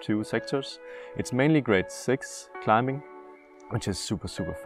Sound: French

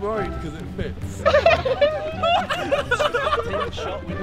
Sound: laughter

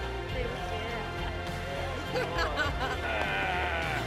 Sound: laughs

